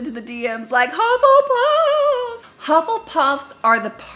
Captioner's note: dings